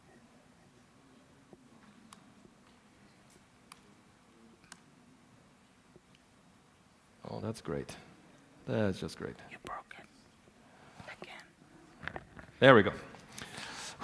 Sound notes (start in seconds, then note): 10.3 whispering